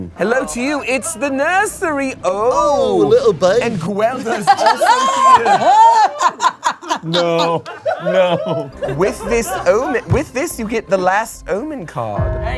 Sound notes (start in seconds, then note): 3.8 all laughing